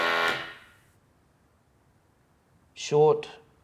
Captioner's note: machine blaring